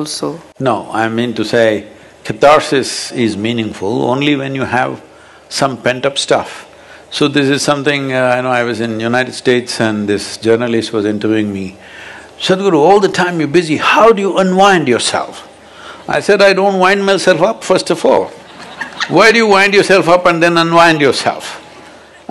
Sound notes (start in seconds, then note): 18.4 laughter